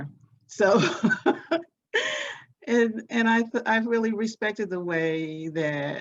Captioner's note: laughs